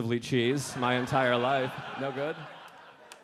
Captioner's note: audience laughing